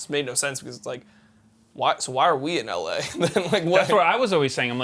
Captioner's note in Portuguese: risos